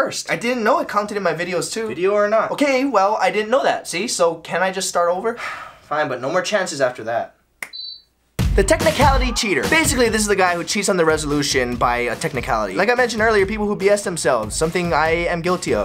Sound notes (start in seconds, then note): 5.4 sigh